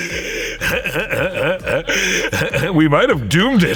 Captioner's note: Seth laughs